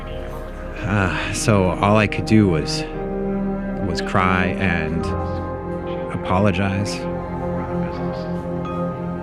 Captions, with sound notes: (groaning) so all I could do was cry and apologize,